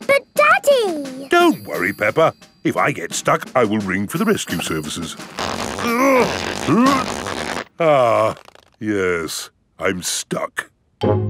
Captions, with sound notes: But, Daddy! Don't worry, Peppa. If I get stuck, I will ring for the rescue services. (GRUNTING) Ah... Yes, I'm stuck.